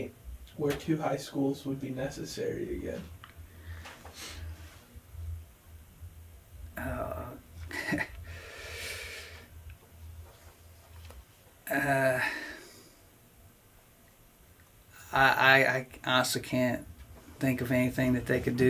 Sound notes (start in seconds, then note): 7.6 laughs to self